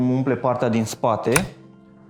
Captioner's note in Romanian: click